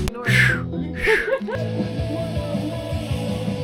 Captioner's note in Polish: śmiech